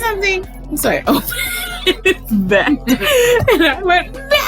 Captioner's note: cackling